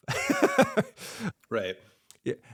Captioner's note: laughs